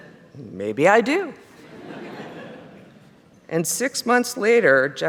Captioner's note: laughter